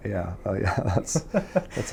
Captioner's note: laughs